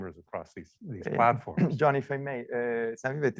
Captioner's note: clears throat